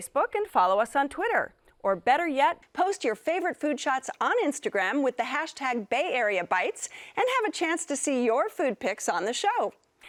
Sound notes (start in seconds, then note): none